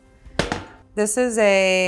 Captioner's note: skillet thuds